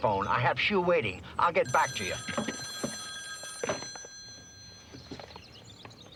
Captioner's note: phone rings